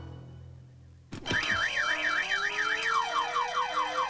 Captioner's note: alarm Blaring